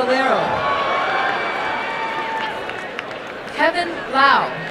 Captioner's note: applause and cheering